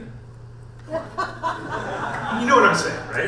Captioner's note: audience laughs